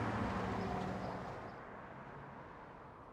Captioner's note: traffic sounds